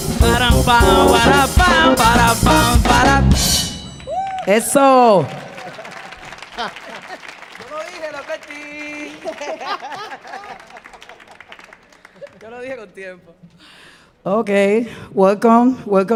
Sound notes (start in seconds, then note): 5.8 audience applauding; 7.8 speaking in Spanish; 8.9 group laughing; 12.0 speaking in Spanish